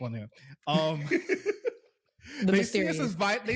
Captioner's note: laughing